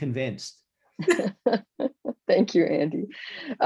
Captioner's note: laughs